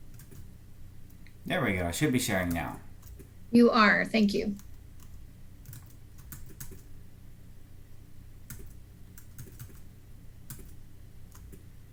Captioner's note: sound of typing